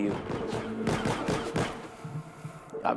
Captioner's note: gunfire